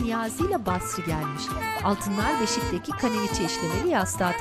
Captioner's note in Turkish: Bebek ağlama sesi